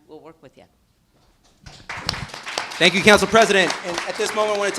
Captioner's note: applause